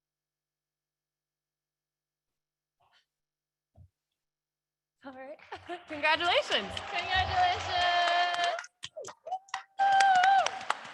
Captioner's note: applause